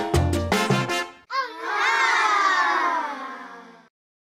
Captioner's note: children applauding